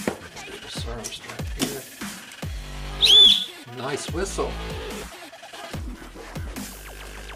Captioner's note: blowing Whistle